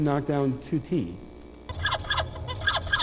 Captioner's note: squeaking